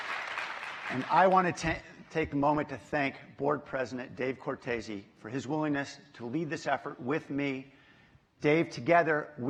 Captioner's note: applause